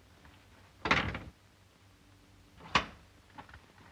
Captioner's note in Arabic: يغلق الباب